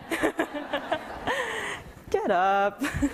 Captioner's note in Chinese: 笑聲